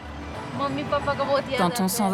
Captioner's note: foreign language spoken